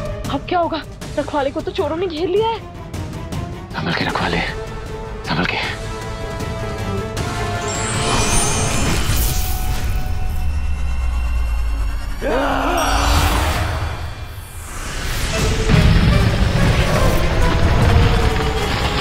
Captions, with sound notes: What will happen now? The thieves have surrounded the 'Saviour'. Be careful, 'Saviour'. Careful! [sparkling] [grunting] [tense music playing]